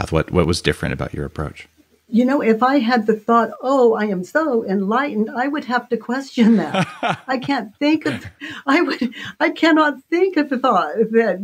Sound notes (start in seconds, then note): 6.4 Dave laughs